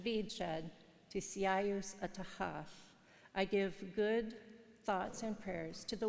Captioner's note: speaking in foreign language